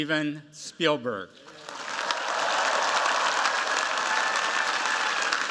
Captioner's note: cheers, applause